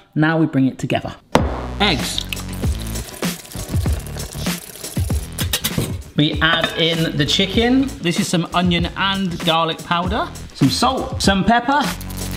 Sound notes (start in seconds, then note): 2.0 eggs sloshing; 2.6 upbeat music; 5.3 whisk rattles; 12.1 upbeat music continues